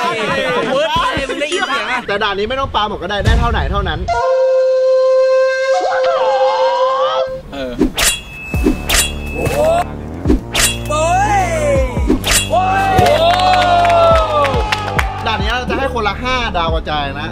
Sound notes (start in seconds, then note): 4.1 japanese instrument playing; 7.8 hit; 9.0 cheering; 13.0 hands clapping